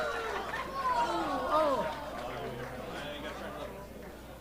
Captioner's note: crowd clamoring; audience applauding